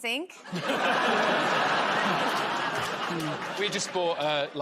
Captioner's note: laughter